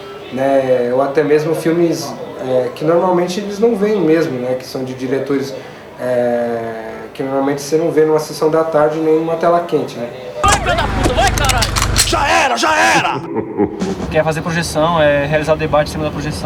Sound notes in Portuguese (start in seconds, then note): 10.4 Armas engatilham, policiais gritam; 12.6 Risada maligna